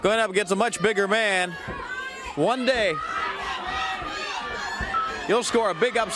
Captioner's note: crowd cheering